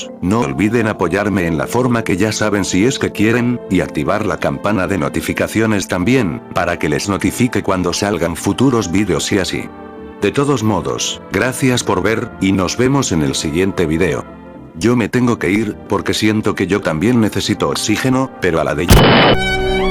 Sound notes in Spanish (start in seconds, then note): 18.9 explota alv